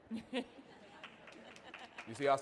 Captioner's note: audience laughing and applauding